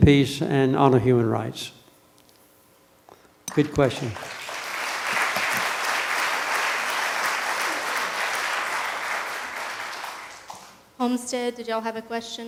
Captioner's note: applause from the audience